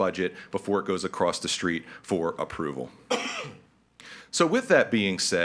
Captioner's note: person coughing